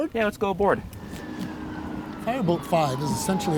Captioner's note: siren wailing